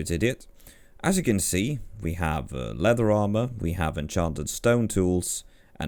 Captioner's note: none